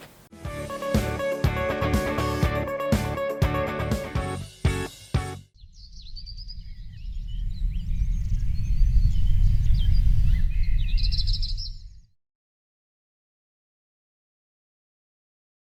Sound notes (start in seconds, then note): 0.0 whispering; 0.3 upbeat music; 5.5 birds chirping